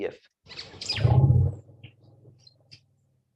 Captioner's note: elephant rumbling